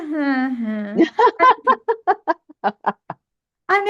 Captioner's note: laughs